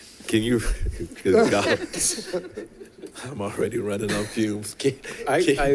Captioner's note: board members chattering and giggling